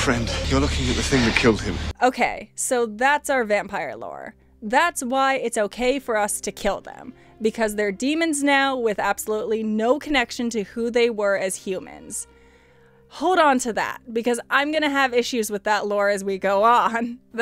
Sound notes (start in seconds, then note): 12.3 deep breath